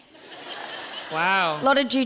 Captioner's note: audience laughing